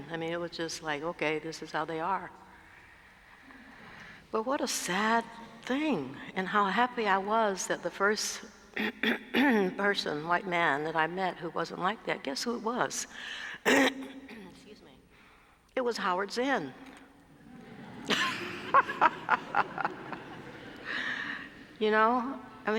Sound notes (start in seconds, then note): 13.6 cough; 17.3 laugh